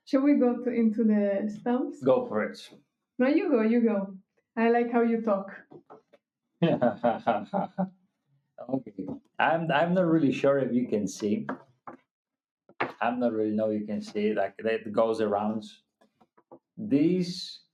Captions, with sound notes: Shall we go into the stops? Go for it. No, you go, you go. I like how you talk. (laughing) Okay, I'm not really sure if you can see. I'm not really sure if you can see, like it goes around. These.